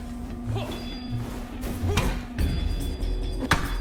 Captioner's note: punches landing; characters grunting; sticks clacking